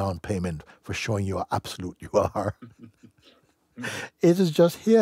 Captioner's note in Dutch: gelach